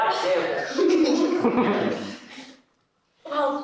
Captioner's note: Elaine laughs